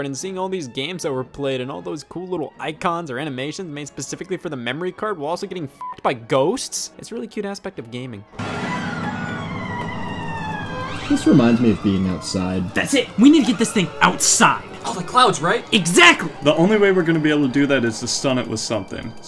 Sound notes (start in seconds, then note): 5.8 beep; 8.4 scary music